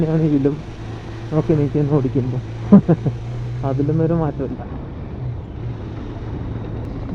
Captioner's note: laughs